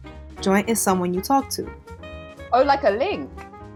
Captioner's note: voiceover